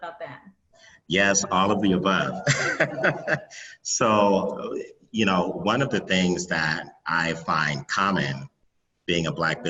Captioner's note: laughs